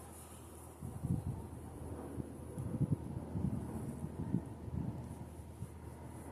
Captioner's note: short Wind Blowing